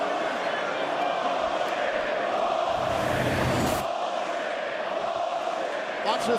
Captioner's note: crowd cheering